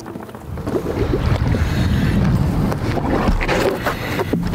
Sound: water bubbling

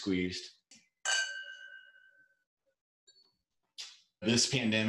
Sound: glasses ringing

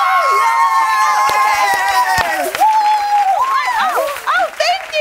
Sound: cheering

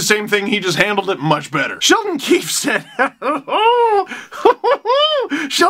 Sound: crazed laughter

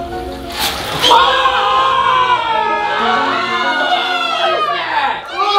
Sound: screaming

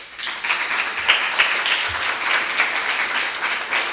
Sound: audience applauding

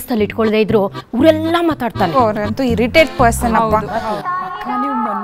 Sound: women chatter about kitty party

